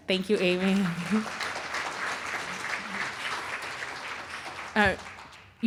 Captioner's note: applause